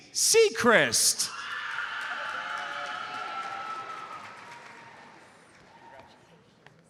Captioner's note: audience cheers and applauds